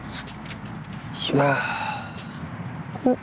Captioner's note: sigh